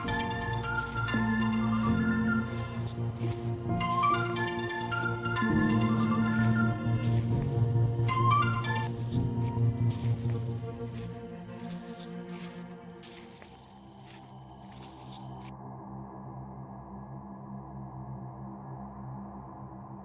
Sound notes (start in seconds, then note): 0.1 cellphone rings; 11.7 footsteps crunch; 11.7 soft tense music